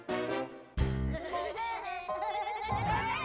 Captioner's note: kids making Woody Woodpecker sounds